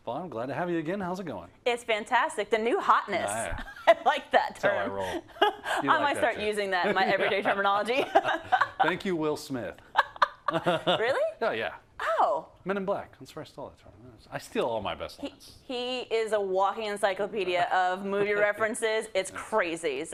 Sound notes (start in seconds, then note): 3.8 laugh